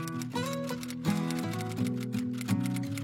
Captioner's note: keyboard typing; gentle guitar strumming